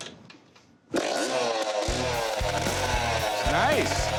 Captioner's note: engine revving